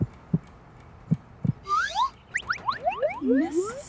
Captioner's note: heart beating; sliding sound effects